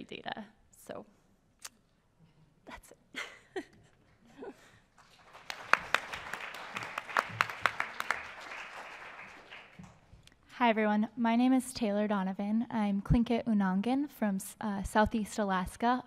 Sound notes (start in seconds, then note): 0.6 chuckles; 4.9 applause